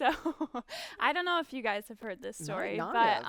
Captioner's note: laughs